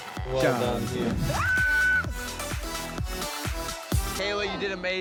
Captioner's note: shrieks